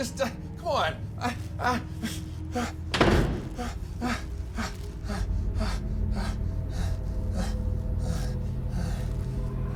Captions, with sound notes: Just, come on! I, I... (door slams) (Tyler pants)